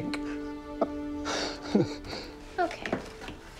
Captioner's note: Dad laughs